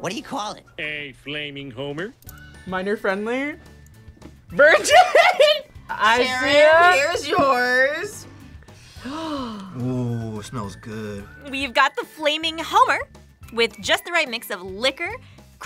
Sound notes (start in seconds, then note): 4.6 laughs; 8.6 gasps